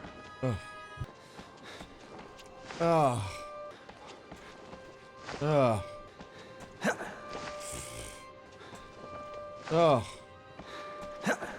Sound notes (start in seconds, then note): 0.4 sigh; 2.8 sigh; 5.4 sigh; 7.6 blows raspberry; 9.7 sigh